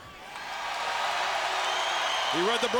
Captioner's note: crowd cheers